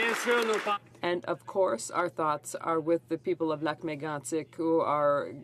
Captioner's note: applause